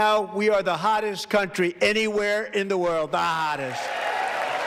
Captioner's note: applause